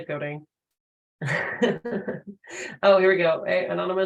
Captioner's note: laughs